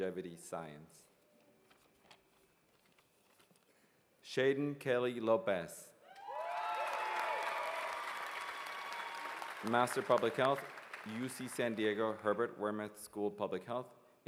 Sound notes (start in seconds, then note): 3.8 cheers and applause